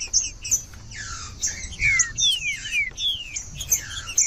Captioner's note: trinca ferro cantando